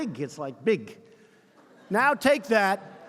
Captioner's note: laughter